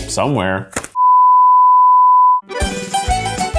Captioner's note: sine tone beep; upbeat music